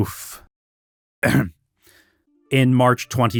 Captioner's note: clears throat